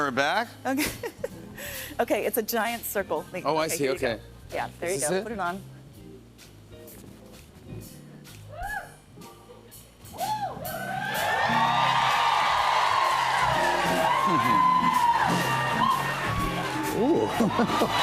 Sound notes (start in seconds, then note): 0.7 chuckles; 10.2 cheers and applause; 17.1 chuckles